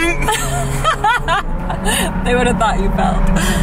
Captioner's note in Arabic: ضحك